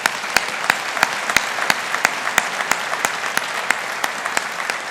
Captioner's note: audience applauding